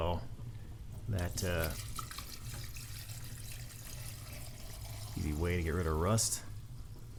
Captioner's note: pouring